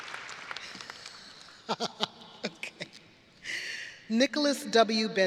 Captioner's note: laughs